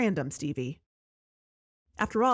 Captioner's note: music stops